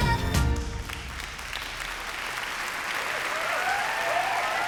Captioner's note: cheering and applause